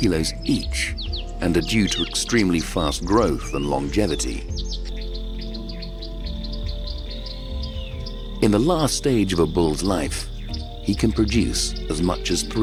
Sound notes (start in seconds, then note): 4.2 soft music; 5.9 wildlife chirping